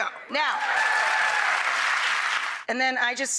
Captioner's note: applause